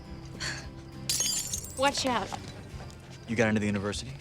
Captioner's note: glass breaks